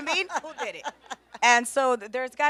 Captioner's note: laughs